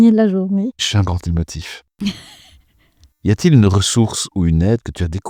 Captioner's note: laughs